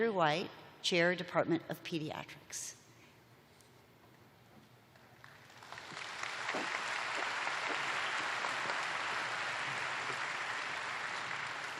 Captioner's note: applause